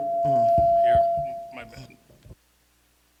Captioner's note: mic whines